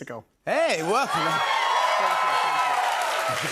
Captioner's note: cheers and applause